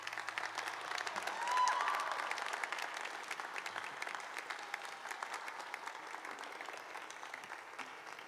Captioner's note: applause